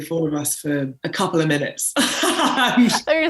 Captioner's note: laughs